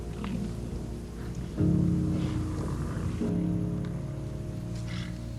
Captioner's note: bison grunting